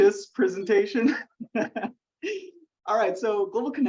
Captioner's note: laughs